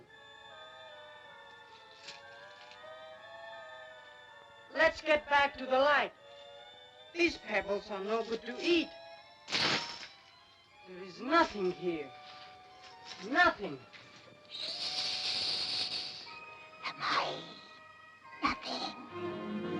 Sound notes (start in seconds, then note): 0.0 eerie ominous music; 9.5 coins clank; 14.4 snake hisses